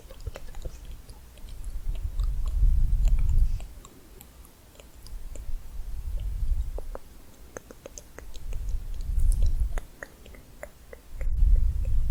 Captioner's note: tongue clicking